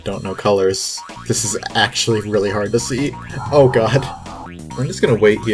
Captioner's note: laughing